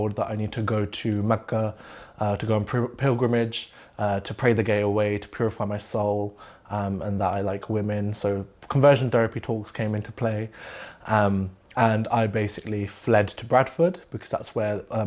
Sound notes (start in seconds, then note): 10.5 inhales